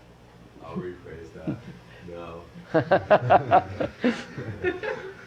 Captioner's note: laughter